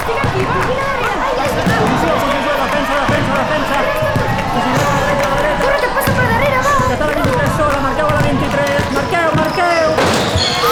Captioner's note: sound of a basketball court; sound of a dunk, the end of the game horn sounds. People scream euphorically